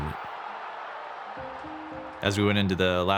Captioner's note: crowd cheering